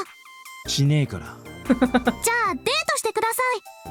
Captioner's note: chuckles